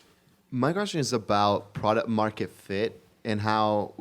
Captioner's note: voiceover